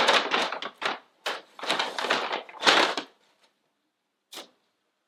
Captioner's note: crunching paper bag